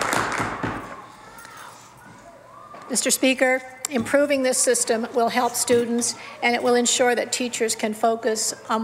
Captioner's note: some Applause